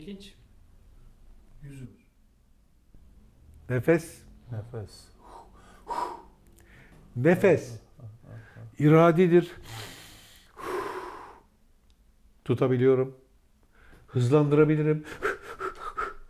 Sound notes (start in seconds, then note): 6.6 breath